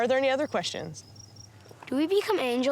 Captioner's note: crickets crackling